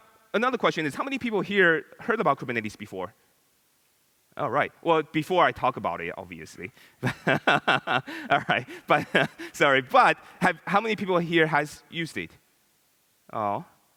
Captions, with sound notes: Another question is, how many people here heard about Kubernetes before? All right. Well before I talk about it obviously (laughs). Sorry, but, how many people here has used it?